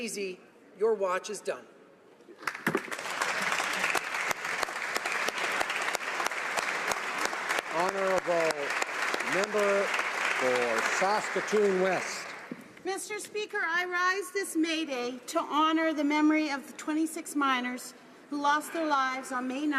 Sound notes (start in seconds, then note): 8.7 applause